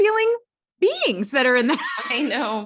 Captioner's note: laughs